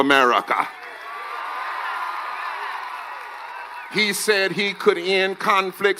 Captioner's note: cheers and applause